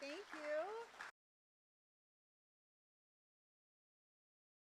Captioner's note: audience clapping